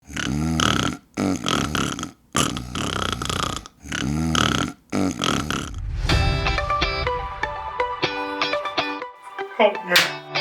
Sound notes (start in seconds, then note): 0.0 annoying snoring noise